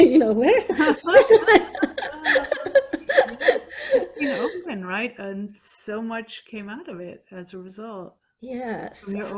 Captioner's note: laughing